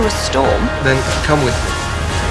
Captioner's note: voiceover